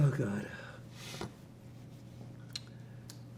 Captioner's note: sniffling